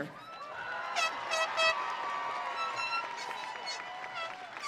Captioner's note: audience cheering